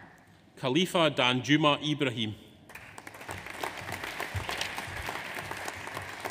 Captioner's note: audience applauds